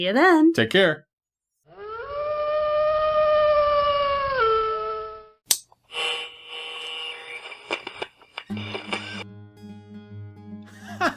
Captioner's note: wolf howl; broadcast interrupted